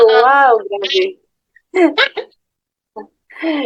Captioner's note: laughs